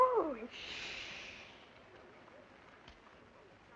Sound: crowd shushing

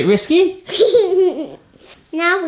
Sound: laughs

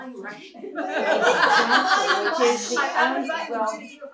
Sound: laughter

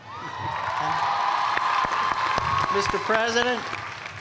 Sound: cheers and applause

